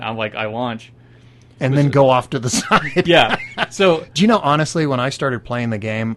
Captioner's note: laughing